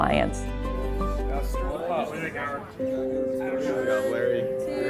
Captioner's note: people chattering